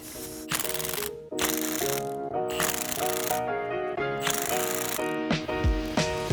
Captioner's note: tool clicking; upbeat music